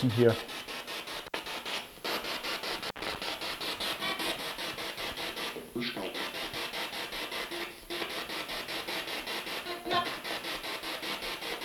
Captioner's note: sound of the Spirit Box in the background